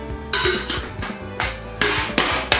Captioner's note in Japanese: 缶を叩く音